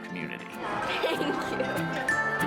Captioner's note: laughs